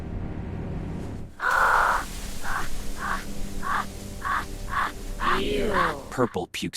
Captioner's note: vomits